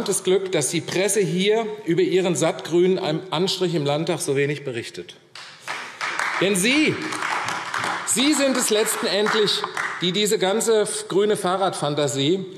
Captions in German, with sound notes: dass die Presse über Ihren sattgrünen Anstrich im Landtag so wenig berichtet. [Beifall AfD] Sie sind es nämlich letztendlich, die diese ganze grüne Fahrradfantasie